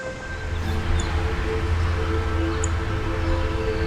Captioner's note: birds chirping